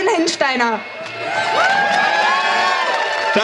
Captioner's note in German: Jubel